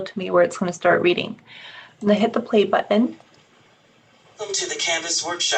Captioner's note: Kurzweil reading